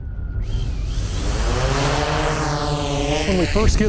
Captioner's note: drone propellers whirring